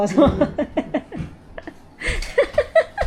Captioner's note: laughter